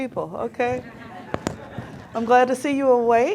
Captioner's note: audience laughing